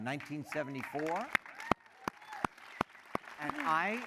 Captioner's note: applause